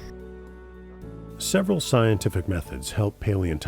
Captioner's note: voiceover